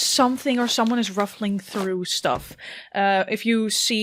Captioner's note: soft thumps and rustling of cloth